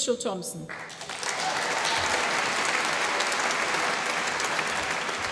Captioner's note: applause